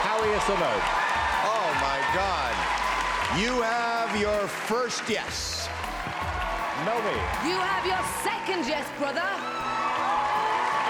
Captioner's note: cheering; cheering